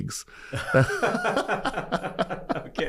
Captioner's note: laughter